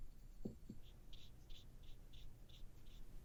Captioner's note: short brush strokes